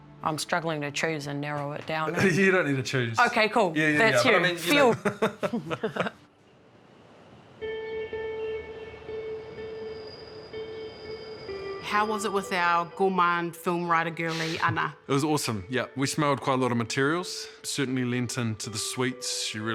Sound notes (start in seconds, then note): 4.5 laughs; 7.6 ambient music